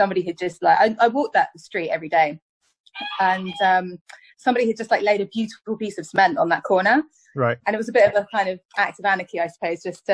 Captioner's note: cockerel shrieks